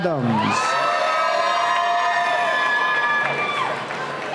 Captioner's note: cheering